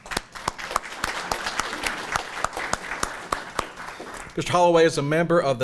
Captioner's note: audience applauding